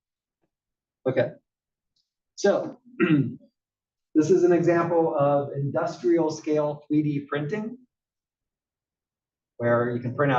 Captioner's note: cough